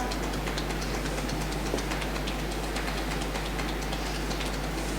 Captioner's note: tapping